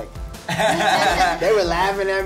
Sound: others laugh

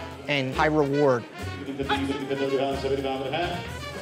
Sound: auctioneers calling

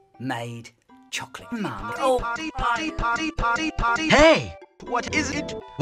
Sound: none

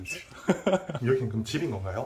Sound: haha

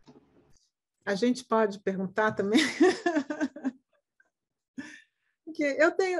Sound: speaking in Portuguese

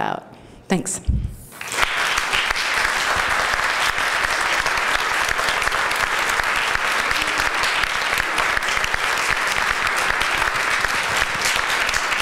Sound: applause

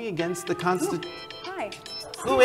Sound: phone rings

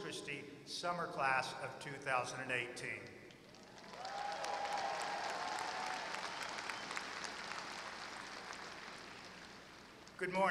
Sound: applause

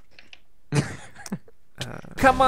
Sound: chuckles

